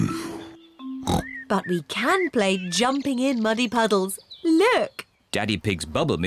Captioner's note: oinks